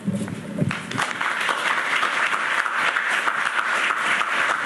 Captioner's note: audience clapping